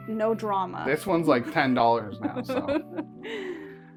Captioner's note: laughs